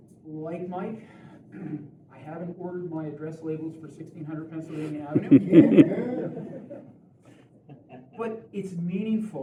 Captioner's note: laughter